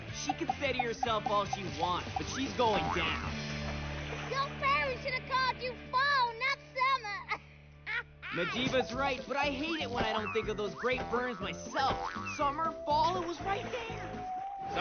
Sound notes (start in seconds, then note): 7.8 laughs